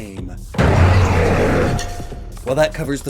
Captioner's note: roar